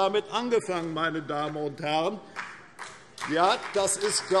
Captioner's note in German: Beifall CDU und vereinzelt BÜNDNIS 90/DIE GRÜNEN